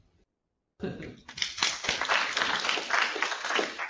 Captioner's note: applause